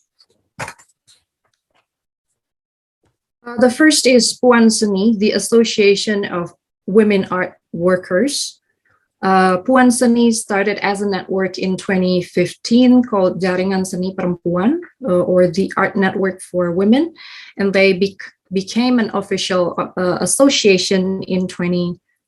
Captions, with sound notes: The first is Puan Seni, The Association of Women Art Workers. Puan Seni started as a network in 2015 called (speaking in foreign language), or The Art Network for Women, and they be came an official association in 2021.